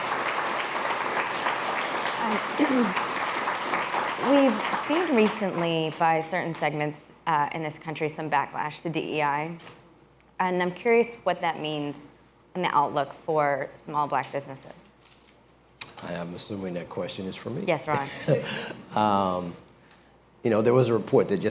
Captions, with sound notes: BECAUSE YOU DIDN'T EVEN KNOW WE WERE THERE FIGHTING THE GOOD FIGHT. [APPLAUSE] >> WE'VE SEEN RECENTLY BY CERTAIN SEGMENTS IN THIS COUNTRY TO DIVERSITY EQUITY AND INCLUSION IN A CURIOUS WHAT THAT MEANS IN THE OUTLOOK FOR SMALL BLACK